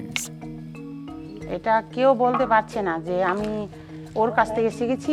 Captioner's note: speaking foreign language